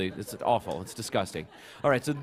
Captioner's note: laughter